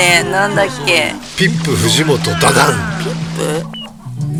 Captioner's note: laughs